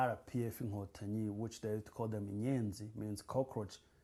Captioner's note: non-english